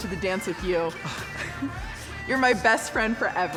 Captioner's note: Barney and Sammie chuckle